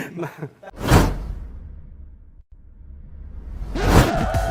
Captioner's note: laugh